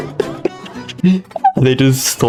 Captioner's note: laughs to myself; inhales Oxygen